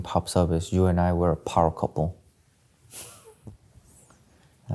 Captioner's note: chuckling